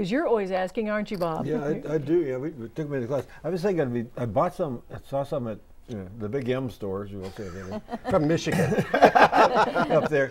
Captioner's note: laughing